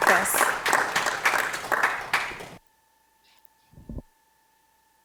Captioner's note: audience clapping